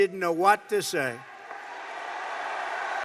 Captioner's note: applause